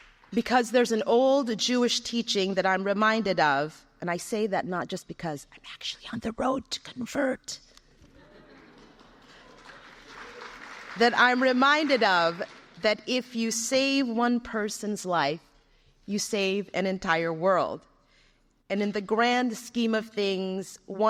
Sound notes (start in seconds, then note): 5.7 whispers; 8.1 scattered light laughter, applause